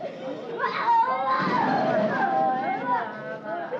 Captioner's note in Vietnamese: Tiếng khóc than